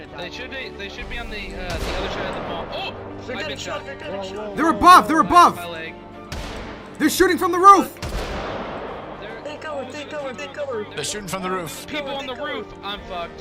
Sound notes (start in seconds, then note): 1.1 gunshot; 2.0 gunshot echoes; 5.6 gunshots